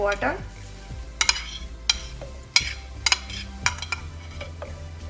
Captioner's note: spoon clacking